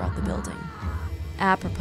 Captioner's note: woman screams